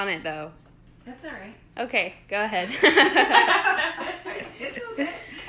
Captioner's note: laughing